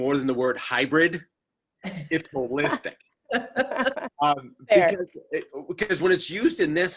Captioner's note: all laughing